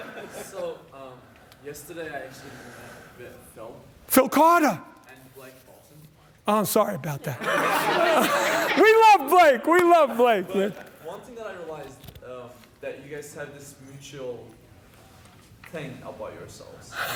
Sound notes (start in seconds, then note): 7.3 laughter